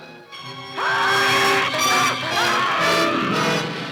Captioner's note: screams